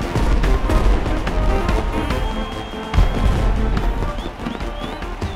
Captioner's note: crowd cheering